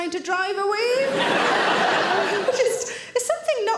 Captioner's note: audience laughing